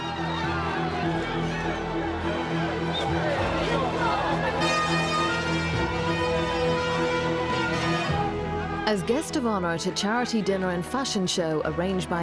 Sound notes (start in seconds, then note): 0.0 people cheering and yelling; 4.7 siren wailing